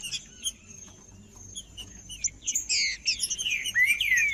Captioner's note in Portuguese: trinca ferro cantando